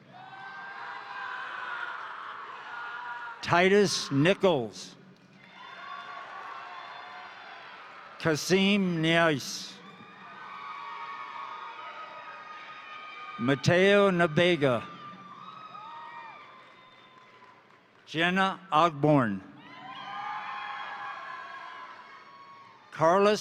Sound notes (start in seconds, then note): 0.0 crowd cheering; 0.3 crowd applauding; 5.2 crowd applauding; 5.6 crowd cheering; 9.9 crowd applauding; 10.1 crowd cheering; 15.6 crowd applauding; 15.6 crowd cheering; 19.5 crowd cheering; 19.6 crowd applauding